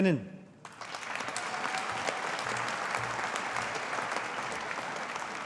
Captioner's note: audience applauding